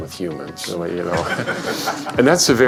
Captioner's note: laughter